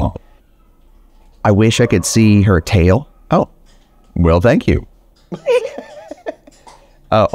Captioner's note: laughs